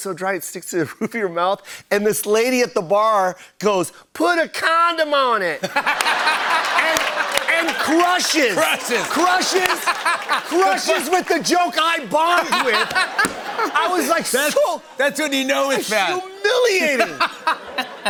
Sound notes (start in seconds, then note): 5.6 laughter